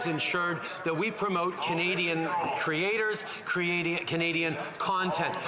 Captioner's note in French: voix de l'interprète